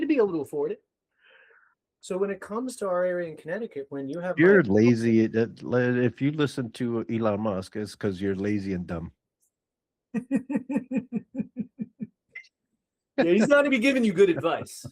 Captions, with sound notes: be able to afford it. So when it comes to our area in Connecticut, when you have-- You're lazy. If you listen to Elon Musk, it's because you're lazy and dumb. (Laughing) He's not gonna be giving you good advice.